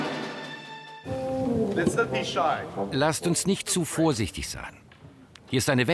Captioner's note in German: englisch